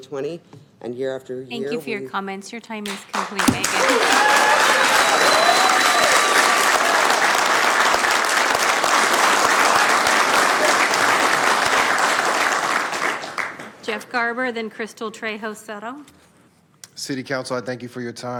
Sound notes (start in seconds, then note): 12.0 cheering